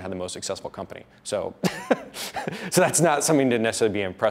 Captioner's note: laughs